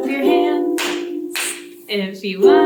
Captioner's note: hands clap